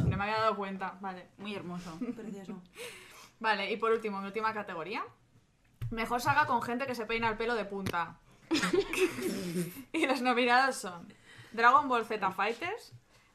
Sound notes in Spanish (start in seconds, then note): 8.5 risas